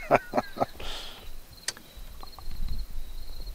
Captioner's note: laughs